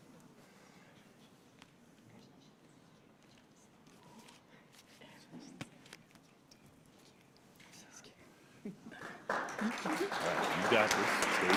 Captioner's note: applause